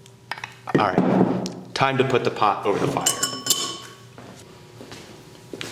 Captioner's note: banging sound of dishes continue; clanging sound metal pot continues; sound of footsteps and clanging of metal pot